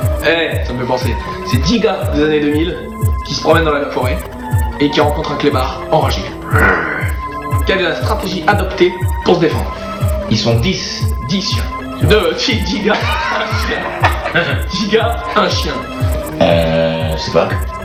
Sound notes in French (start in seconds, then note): 13.0 rires